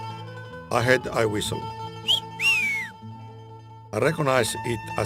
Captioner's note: whistling noise